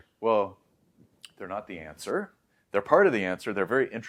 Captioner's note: lips smack